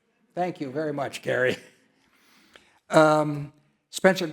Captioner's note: laughs